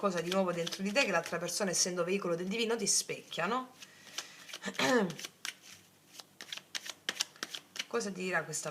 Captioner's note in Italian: schiarire la voce